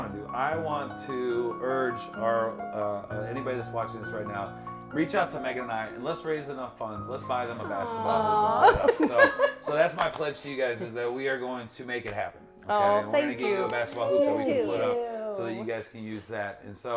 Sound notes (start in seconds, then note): 7.6 laughs; 12.0 hand hits lap